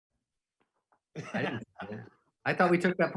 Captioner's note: laughing